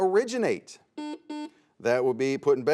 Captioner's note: buzzer sounds